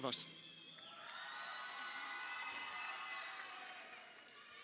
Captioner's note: crowd cheering